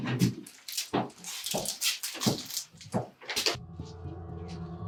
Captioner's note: footsteps thumping; calm music